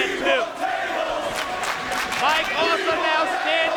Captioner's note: crowd chanting